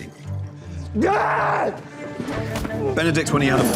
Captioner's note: screaming